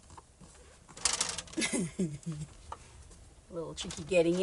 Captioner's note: laughs